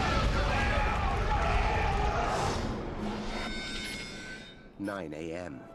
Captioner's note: Χειροκρότημα